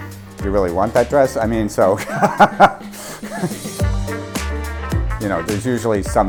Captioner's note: laughs loudly